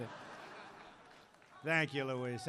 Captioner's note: laughter